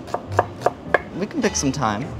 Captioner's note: knife chopping